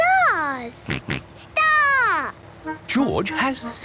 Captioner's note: snort